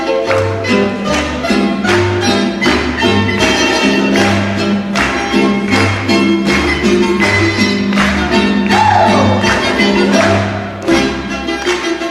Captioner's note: clapping rhythmically